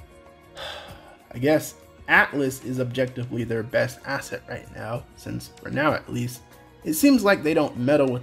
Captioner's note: sigh